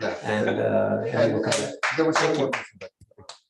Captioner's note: applause